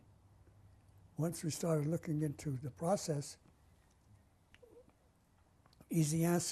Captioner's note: pauses for 3 seconds